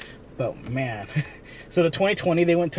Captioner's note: chuckles